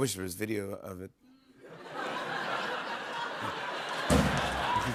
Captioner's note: laughter; drumroll